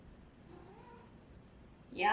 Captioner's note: cat sound